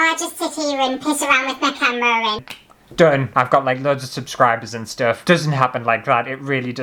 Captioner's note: click